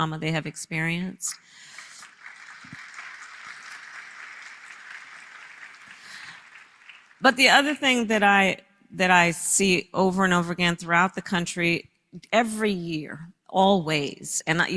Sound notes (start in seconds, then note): 1.3 applause